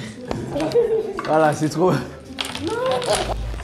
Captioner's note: rires